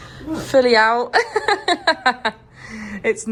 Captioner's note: laughs